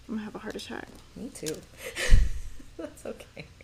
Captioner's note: laughs